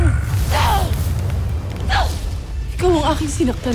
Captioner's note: growls & grunts; infernal blast-crackle